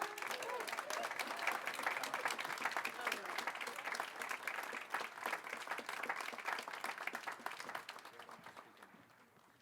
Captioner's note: applause